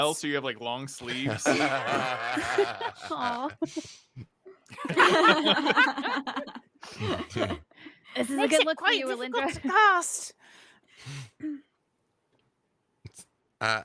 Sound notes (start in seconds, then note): 1.0 laughing